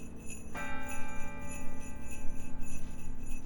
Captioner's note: bell chimes